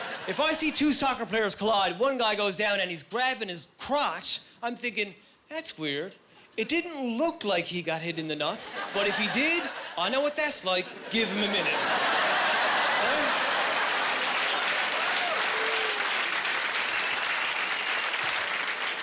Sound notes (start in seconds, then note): 11.0 laughing; 14.0 applause